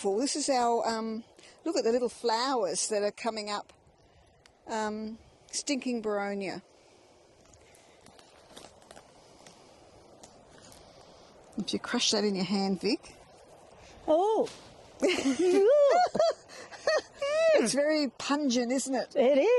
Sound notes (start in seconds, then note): 15.0 laughs